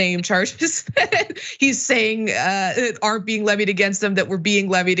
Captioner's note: laugh